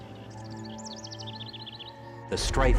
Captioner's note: birds chirping